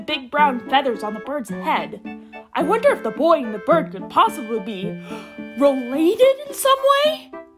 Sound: gasp

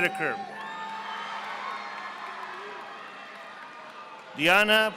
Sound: audience applauding

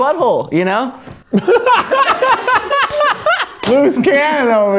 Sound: laughing

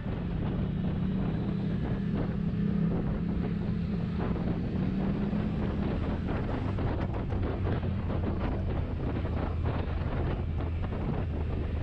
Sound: wind and motorcycle engine sounds

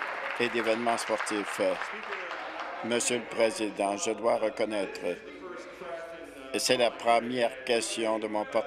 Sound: applause

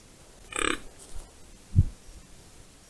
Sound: grunt

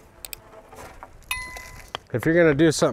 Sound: subscription bell rings

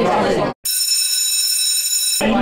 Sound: school bell ringing sound effect

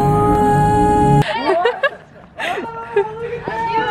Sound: laughing

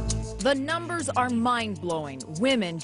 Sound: voiceover

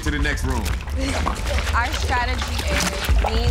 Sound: blood splashing

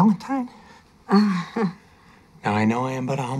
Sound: chuckles nervously

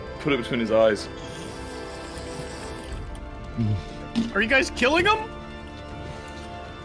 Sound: drinking noises

